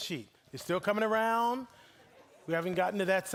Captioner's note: audience laughing